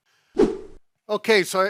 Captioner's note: whoosh noise